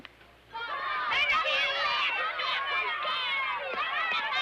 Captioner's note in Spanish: bullicio